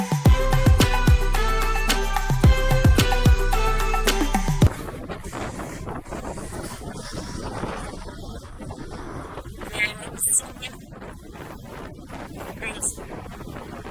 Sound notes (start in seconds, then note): 4.7 wind blowing; 9.6 wind drains out speaker's voice